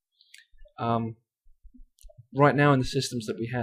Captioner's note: pause